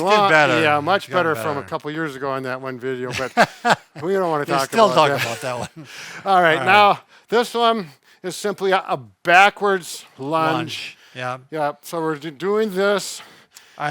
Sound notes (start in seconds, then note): 3.1 chuckles